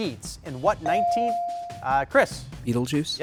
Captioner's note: buzzer dings